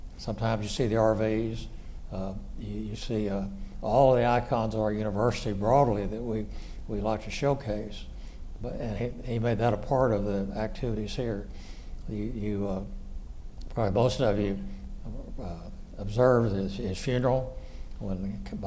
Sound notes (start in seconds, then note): none